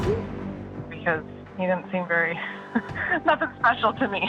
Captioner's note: chuckles